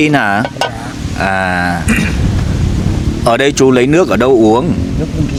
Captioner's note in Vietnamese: hắng giọng